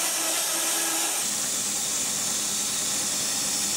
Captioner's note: saw whirring